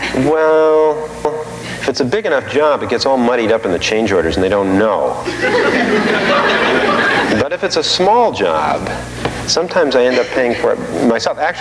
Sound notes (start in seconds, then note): 5.2 audience laughing